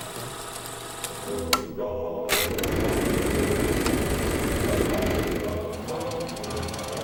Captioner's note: theme song plays; reel clicks